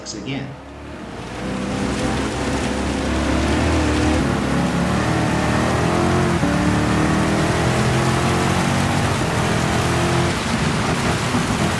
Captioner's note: engines revving, cars noises, rain